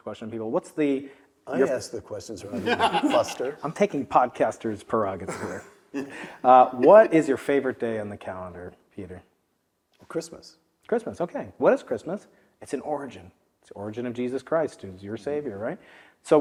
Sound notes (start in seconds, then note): 2.5 laugh